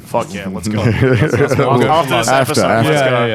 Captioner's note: laughing